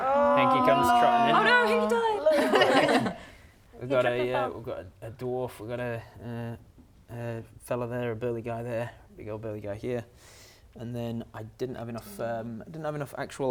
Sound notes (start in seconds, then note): 1.3 laughing